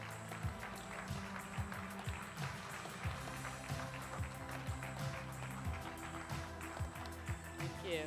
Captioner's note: applause